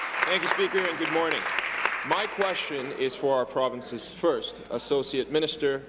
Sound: applause

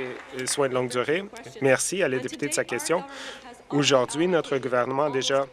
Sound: applause

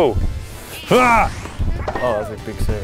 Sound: groans

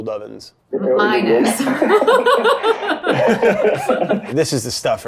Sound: laughs

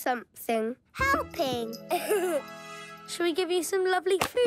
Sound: giggles

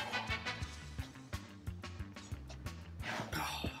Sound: sighs

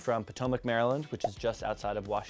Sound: pop

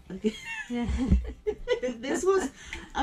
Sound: giggles

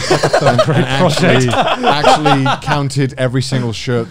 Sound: laughing

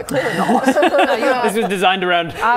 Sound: laughing

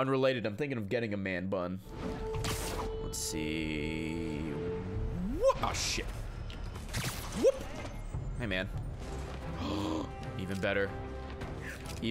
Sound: gasps

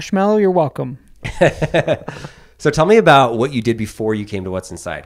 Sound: laughs

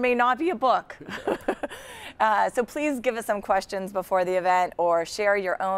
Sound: laugh

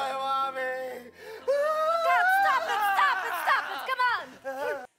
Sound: wailing; wailing continues

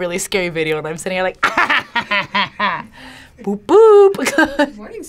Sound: laughs

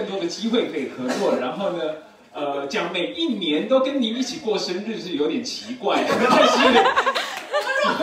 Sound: everyone laughs

